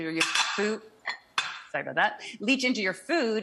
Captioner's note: dishes clinking